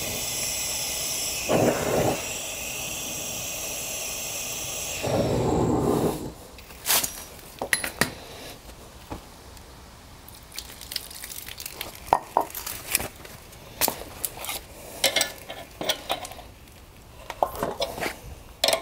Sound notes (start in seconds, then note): 10.4 water pouring; 15.7 clanging sounds